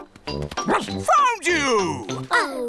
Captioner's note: barks